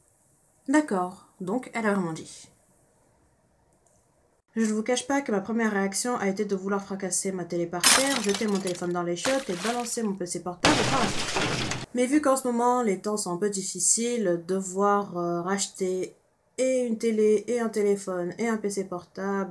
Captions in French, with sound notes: d'accord... Donc elle l'a vraiment dit Je ne vous cache pas que ma première réaction a été de vouloir fracasser ma télé par terre *bruit de verre brisé* de jeter mon téléphone dans les chiottes *bruit d'éclaboussure* et balancer mon PC portable par la fenêtre *bruit de fenêtre qui se brise* Mais vu qu'en ce moment les temps sont un peu difficile devoir racheter et une télé, et un téléphone et un PC portable